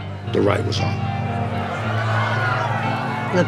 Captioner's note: shouting intensifies